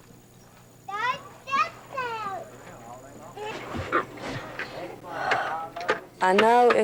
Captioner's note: children playing